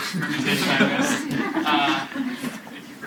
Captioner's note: students laughing